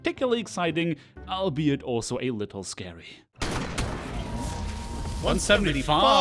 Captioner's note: shooting sounds